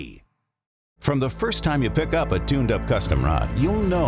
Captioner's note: voiceover